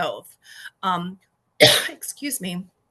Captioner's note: coughs